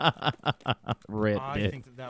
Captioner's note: laughing